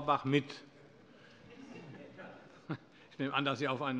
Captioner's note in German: Vereinzelt Heiterkeit